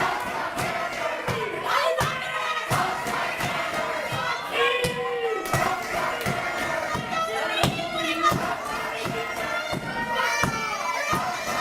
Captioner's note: audience yelling